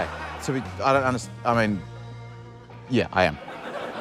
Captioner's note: laughter